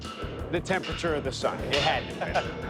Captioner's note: laughs